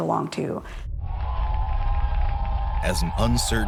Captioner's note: crowd cheering